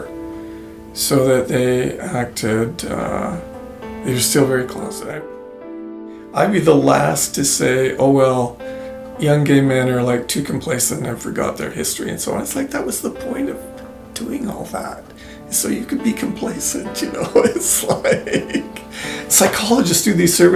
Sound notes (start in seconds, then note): 17.0 laughs